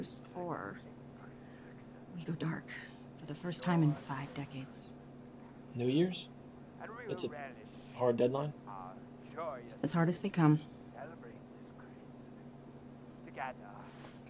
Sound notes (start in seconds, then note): none